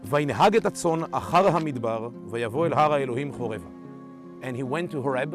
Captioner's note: speaking in Hebrew